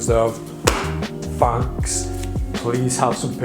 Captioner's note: claps hands